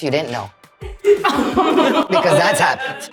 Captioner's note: everyone laughing